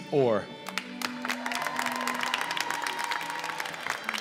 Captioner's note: applause